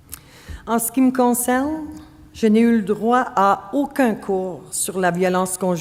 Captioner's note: speaking French